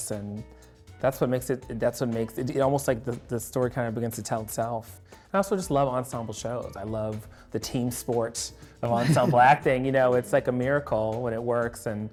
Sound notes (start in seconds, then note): 8.9 chuckles